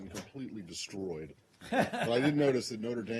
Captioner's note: laughter